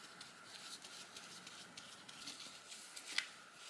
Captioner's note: brush stroke sounds